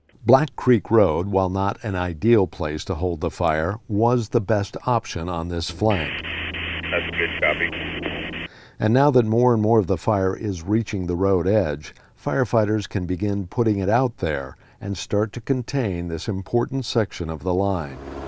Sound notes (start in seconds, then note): 6.3 voice on a radio; 18.0 sound of helicopter